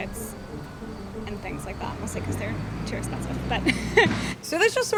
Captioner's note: laughs